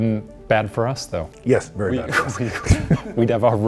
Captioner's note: laughs